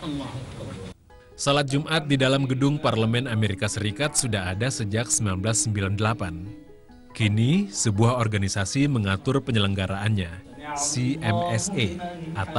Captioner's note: non-english speech